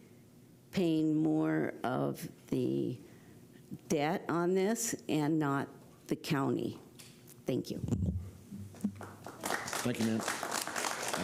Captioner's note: applause